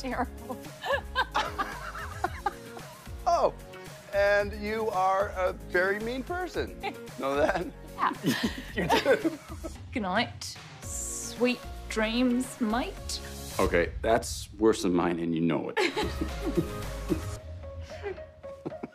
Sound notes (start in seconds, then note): 0.8 laughs; 8.1 laughs; 9.1 Australian accent; 15.8 laughter